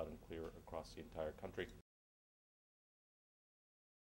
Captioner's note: audio ends